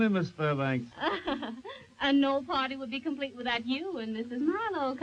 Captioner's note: chuckles